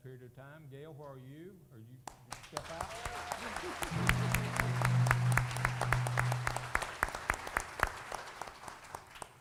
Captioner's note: applause